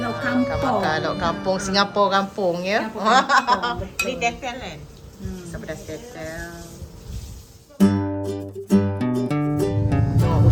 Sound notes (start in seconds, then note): 2.9 laugh; 8.1 background music